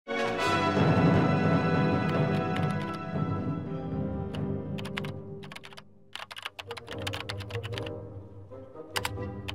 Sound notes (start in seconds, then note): 0.0 keyboard clicking; 0.1 dramatic instrumental music